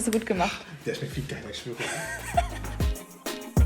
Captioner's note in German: lacht